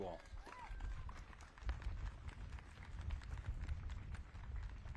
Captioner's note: audience claps